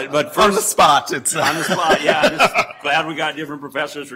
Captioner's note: laughter